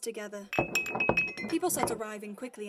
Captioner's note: glasses clinking